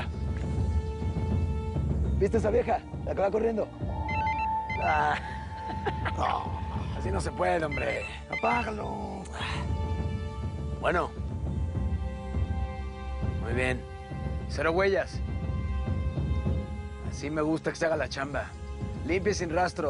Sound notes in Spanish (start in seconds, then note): 4.0 Suena un celular; 5.5 Carcajadas